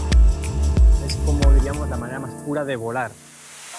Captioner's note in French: en espagnol